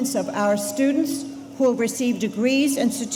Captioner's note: none